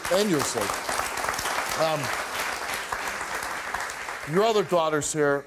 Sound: audience applauds

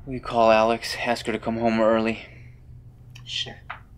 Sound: none

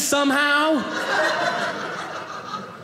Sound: audience laughing

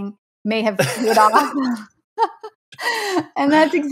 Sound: laughing

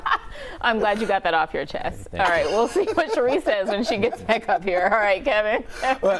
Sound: laughter

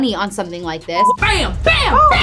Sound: beep

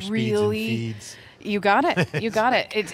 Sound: chuckles

